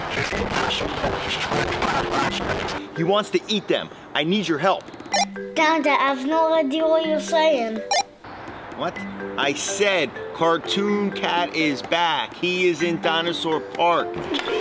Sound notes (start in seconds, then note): 4.3 radio beeps; 8.1 radio beeps